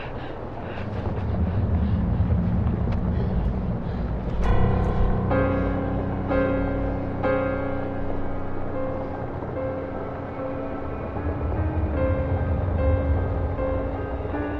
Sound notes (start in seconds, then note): 3.6 Ura breaths abnormally; 3.6 tense piano notes; 9.8 horror music